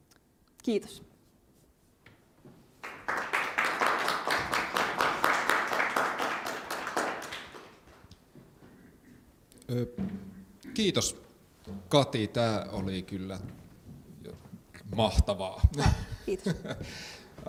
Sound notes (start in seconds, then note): 2.8 applause